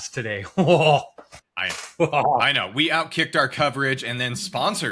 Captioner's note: laugh